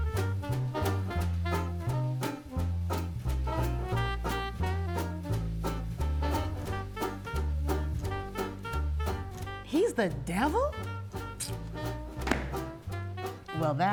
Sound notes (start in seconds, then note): 7.8 jaunty bright upbeat music continues; 11.3 clicks tongue; 12.2 book thuds